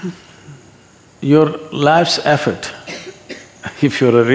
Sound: laughs

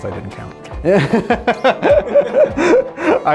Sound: laughing

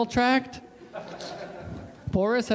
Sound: audience laughs

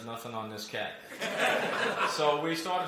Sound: laughter

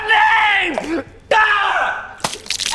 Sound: screaming

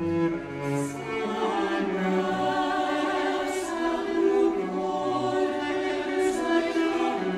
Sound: higher voices

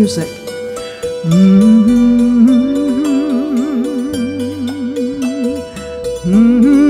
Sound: humming

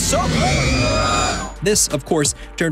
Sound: r2-d2 yelling

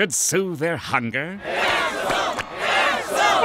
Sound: chanting

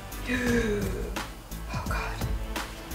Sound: gasps

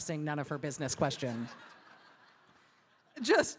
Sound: audience laughing

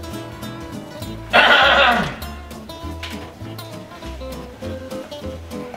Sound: father clears throat

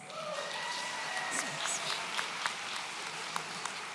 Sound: audience cheering

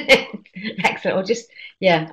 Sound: laughing

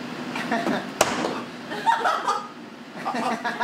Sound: smack; audience laughter

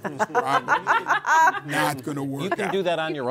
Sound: all laughing

